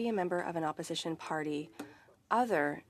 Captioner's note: speaking French